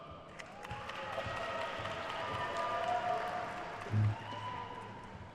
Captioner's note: attendees cheering and applauding